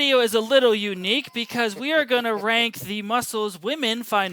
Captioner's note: laughs